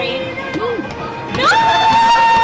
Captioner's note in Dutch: aftellen in Japans